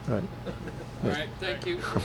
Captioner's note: group chuckles